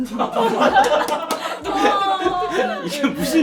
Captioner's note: unique crying style